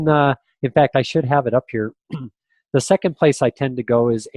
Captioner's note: clears throat